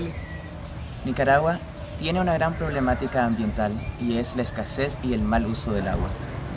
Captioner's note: speaking spanish